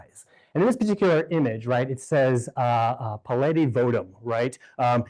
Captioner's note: speaking greek